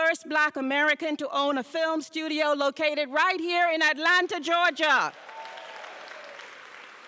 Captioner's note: applause and cheers